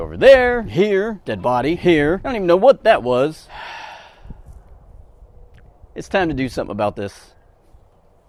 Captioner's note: sigh